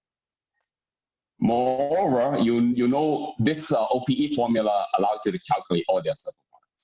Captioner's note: murmur